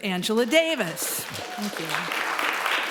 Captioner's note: applause